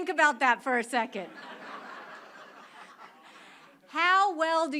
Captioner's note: crowd laughs